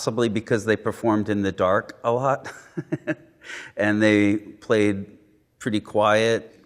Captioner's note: laughing